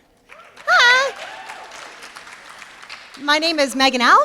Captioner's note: applause